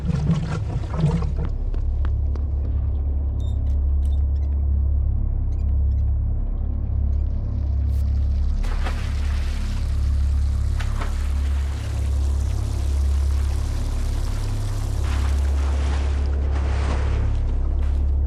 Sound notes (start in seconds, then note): 7.4 water sounds